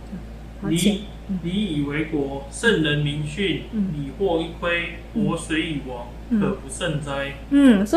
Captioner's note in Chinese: 朗讀